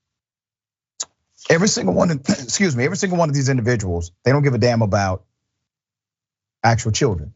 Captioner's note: cough